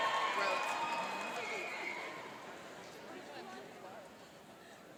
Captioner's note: cheering and applauding